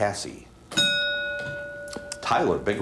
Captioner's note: ding